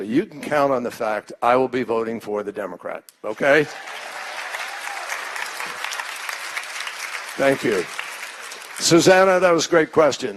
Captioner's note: applause